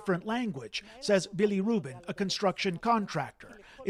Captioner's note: speaking alternate language